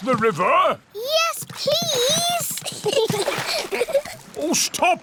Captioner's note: giggles